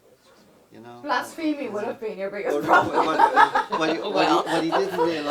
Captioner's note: laughs